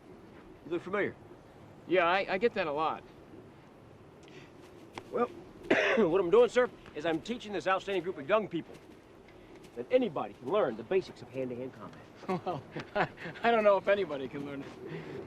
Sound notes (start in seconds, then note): 5.6 coughs; 12.1 laughs